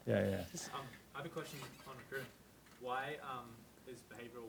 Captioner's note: voiceover